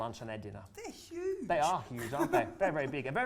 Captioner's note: laughs